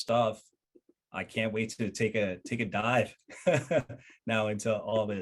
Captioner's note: laughing